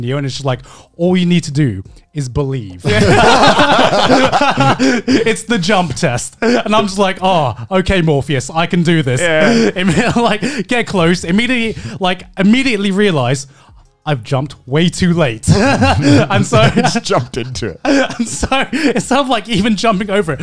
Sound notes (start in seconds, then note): 2.8 all laughing; 15.4 laughing